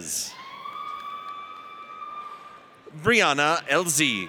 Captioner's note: audience cheers